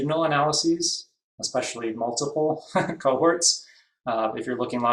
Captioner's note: laughs